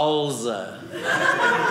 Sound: audience laughing

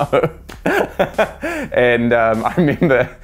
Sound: laughter

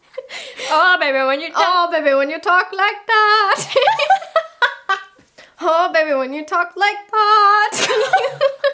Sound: laughs; laughs real hard!

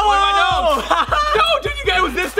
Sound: laughs

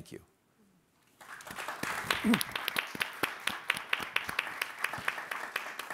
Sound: audience clapping

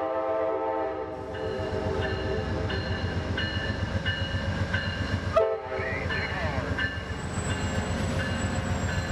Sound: train horn

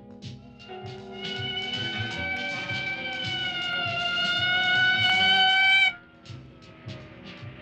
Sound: police siren

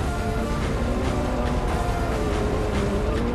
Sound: engine roars

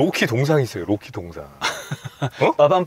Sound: laughing

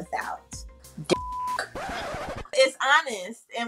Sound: beeps

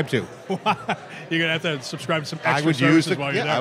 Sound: laughs

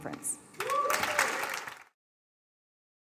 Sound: applause

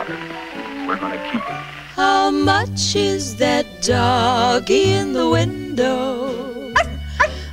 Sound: dog barks

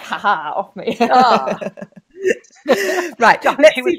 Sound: laughs

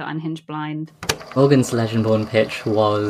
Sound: tape recorder clicks on

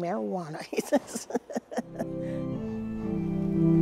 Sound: laughs

